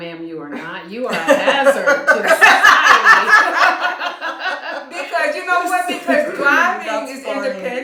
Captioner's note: laughter